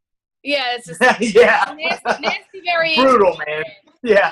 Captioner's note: laughs